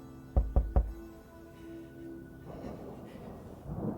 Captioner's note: door knocking